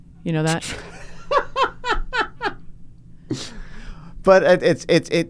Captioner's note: laughs